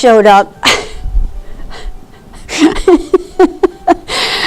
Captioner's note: laughing